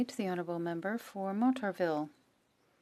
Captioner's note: speaking French